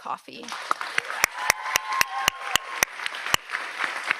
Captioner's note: audience applauds